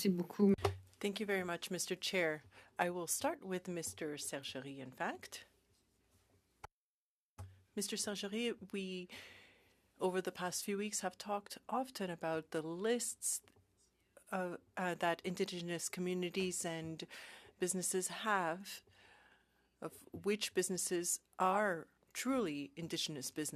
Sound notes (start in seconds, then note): 6.7 speaking French